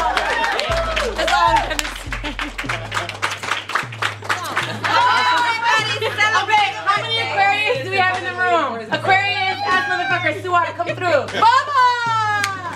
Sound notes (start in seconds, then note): 0.0 clapping; 4.9 yelling